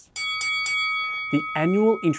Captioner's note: bell dinging